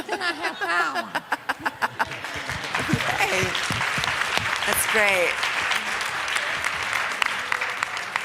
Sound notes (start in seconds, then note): 2.8 laughter; 4.5 applause